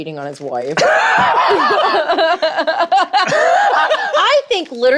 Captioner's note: laughing